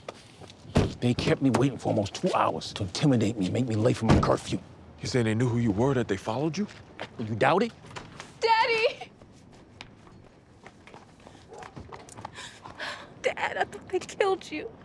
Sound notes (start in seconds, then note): 7.8 door opens